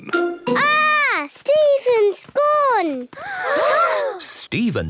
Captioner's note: gasps